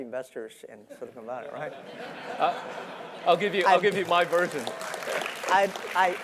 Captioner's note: laugh; applause